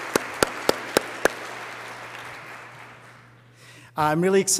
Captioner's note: applause